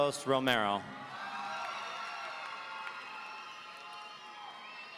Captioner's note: audience cheering